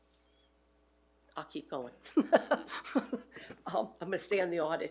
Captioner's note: laughing